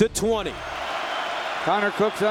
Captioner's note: crowd cheering